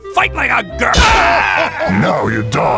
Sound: Commando laughing

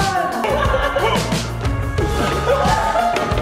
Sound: laughing

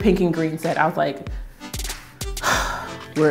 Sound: sighs

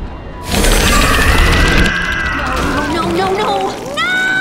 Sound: creature yelling

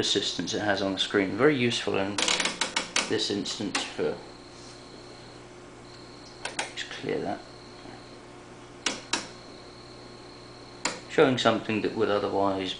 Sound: dial clicks

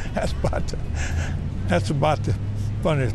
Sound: chuckling

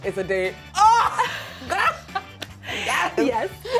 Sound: laughter

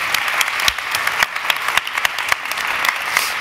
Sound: applause

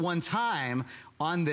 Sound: counting

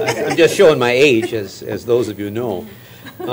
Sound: laughter

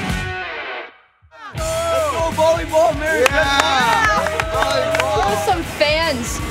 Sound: cheering

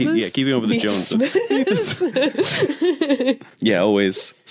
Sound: both laugh

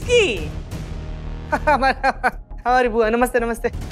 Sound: chuckles

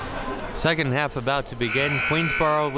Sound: buzzer sounding

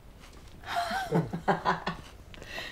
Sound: laughs

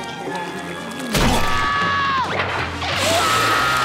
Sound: screams

